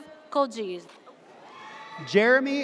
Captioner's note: audience cheers